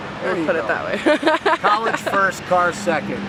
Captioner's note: laughter